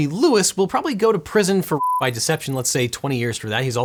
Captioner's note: beep